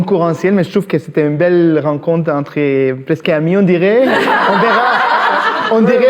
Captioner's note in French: rires